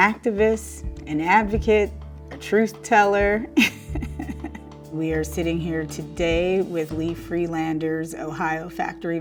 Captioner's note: laugh